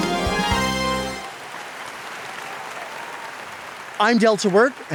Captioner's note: audience applauds